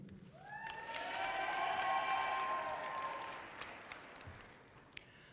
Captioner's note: audience cheering loudly